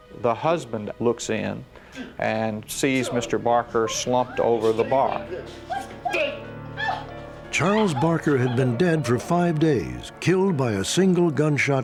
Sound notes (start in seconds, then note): 6.8 screams